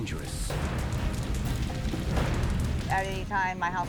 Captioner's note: fire crackling